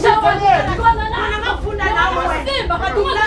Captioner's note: arguing